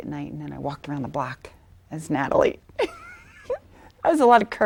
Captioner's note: laughing